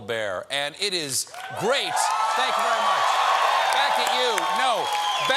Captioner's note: cheers and applause